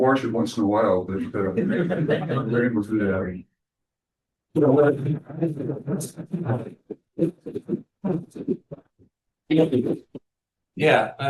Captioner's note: laughter